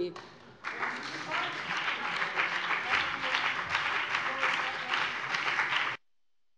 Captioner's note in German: Beifall BÜNDNIS 90/DIE GRÜNEN und CDU